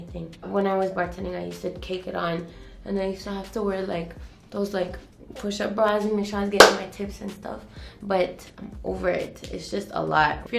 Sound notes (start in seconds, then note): 6.6 claps